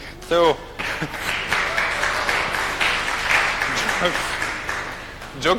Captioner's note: audience claps